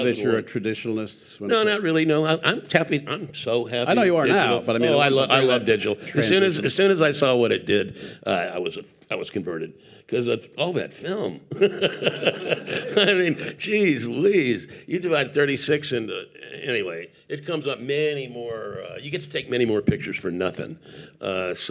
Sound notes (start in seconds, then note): 11.5 laughing